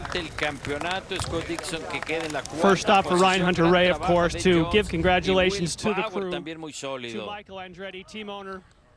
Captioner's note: cheers and applause